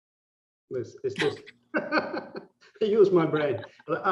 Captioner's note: laughing